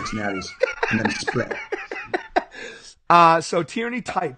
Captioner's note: laughing